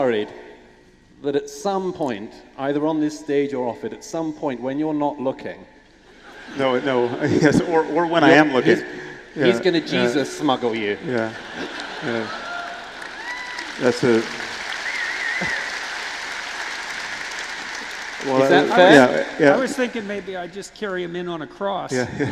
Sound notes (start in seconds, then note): 11.5 applaud; 21.9 laughter